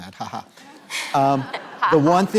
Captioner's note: laughter